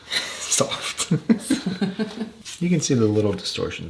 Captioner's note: laughs